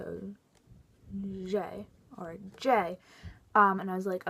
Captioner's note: french accent